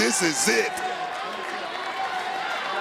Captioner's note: applause